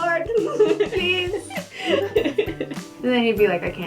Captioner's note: laughter